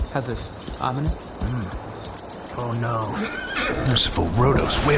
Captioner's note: jingles